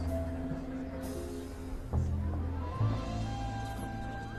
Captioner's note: people chattering softly